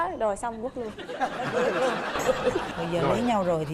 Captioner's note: laughing